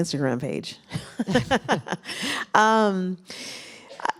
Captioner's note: laughter